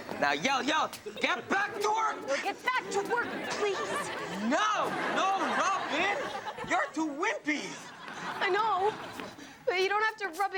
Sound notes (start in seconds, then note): 5.4 audience laughs